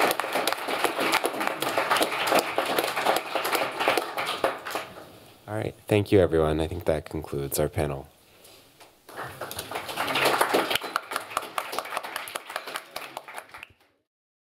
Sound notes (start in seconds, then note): 0.0 applause; 9.0 applause